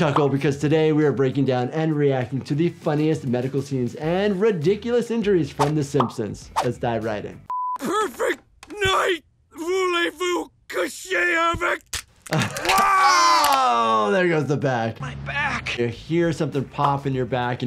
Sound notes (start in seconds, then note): 9.6 speaking in foreign language; 11.6 back cracking